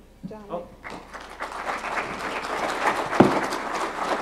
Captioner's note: applause